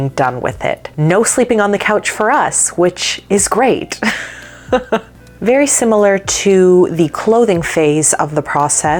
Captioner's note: laughs